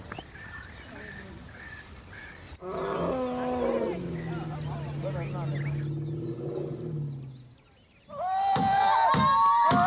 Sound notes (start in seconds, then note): 2.6 elephant call; 8.4 shouting, drumming, and whistling